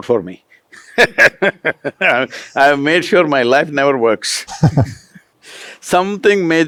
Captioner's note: laughs